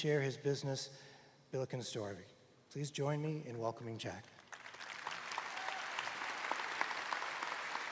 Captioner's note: applause